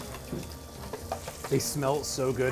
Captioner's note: fingers tapping; food sizzling